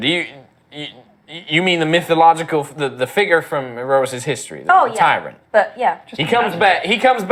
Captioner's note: falteringly